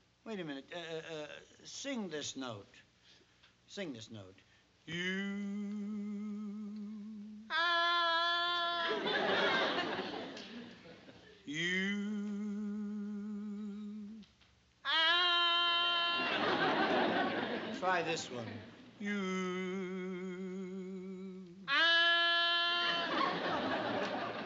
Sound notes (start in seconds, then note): 5.6 singing; 7.4 tonoose mimicking tone badly; 10.9 singing; 14.7 tonoose mimicking tone badly; 19.7 singing; 21.7 tonoose mimicking tone badly